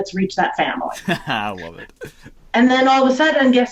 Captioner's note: laughs